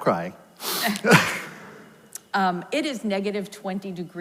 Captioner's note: both laugh